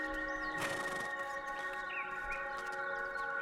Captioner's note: horse braying